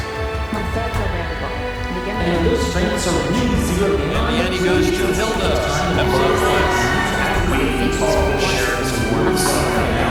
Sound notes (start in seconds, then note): 6.2 crowd cheering